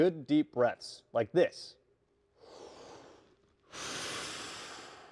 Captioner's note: breathes loudly